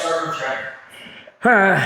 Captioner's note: ominous sigh